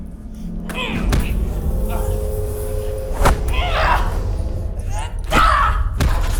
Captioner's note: grunting; smacking